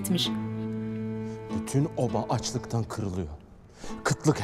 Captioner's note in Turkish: Gündoğdu dış ses